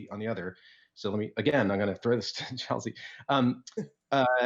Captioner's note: chuckles